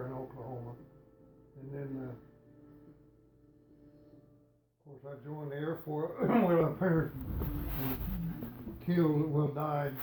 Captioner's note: coughing